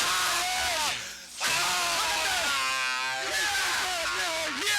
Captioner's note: Dusty screaming